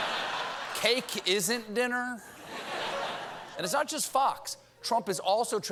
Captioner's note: laughter